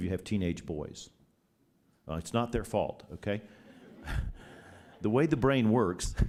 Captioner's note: laughter